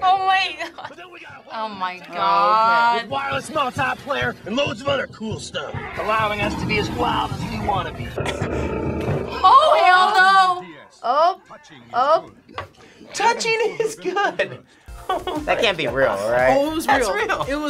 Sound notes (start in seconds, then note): 0.9 laughs; 8.2 Jack laughs; 14.4 laughs